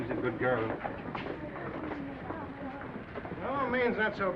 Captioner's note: viewers chattering